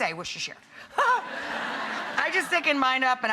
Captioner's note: audience laughs